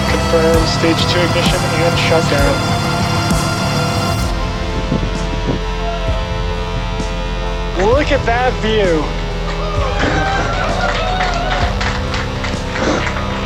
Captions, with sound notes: Confirm stage two engine shutdown. Well look at that view. [cheering].